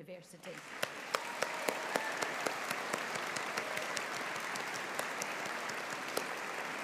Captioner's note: audience applauding; audience cheering